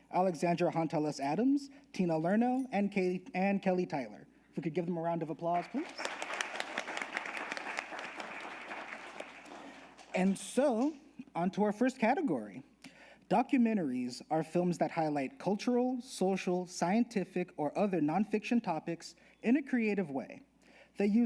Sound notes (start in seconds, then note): 5.6 audience applauding